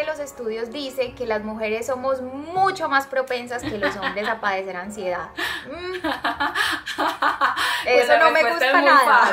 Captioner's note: laughs